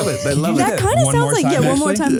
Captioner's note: laughing